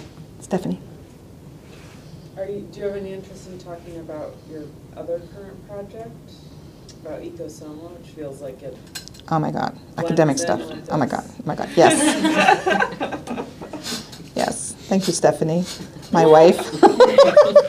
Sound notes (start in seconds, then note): 11.5 all laughing; 16.1 laughing